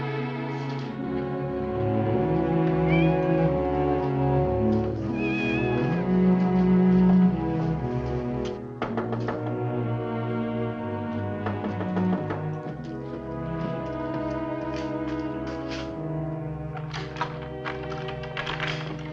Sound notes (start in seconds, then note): 2.8 cat meowing; 8.8 knocking on door; 16.7 lock rattling